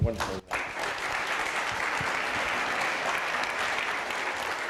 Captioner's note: applause